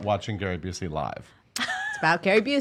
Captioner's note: laughing